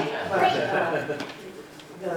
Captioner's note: laughter